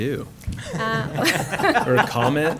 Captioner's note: laughter